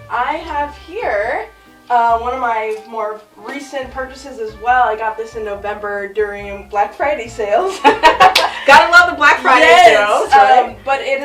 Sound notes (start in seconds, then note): 7.8 laughs; 8.2 claps hands